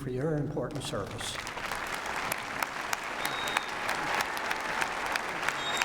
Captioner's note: applause